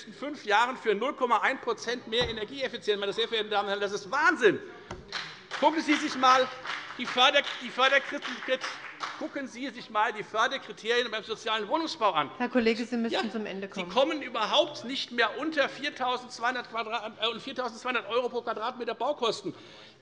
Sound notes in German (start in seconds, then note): 5.0 Beifall bei der FDP